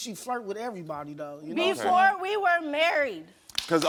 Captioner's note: audience applauds